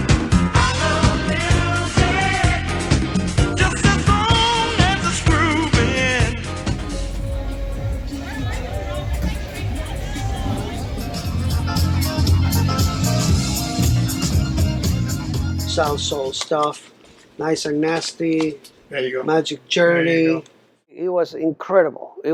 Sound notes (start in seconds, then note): 7.4 people chattering; 11.2 disco music